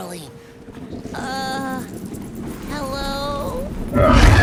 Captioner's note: water swirling intensifies; A terrifying ROAR deafens the surroundings as a magnificent dragon appears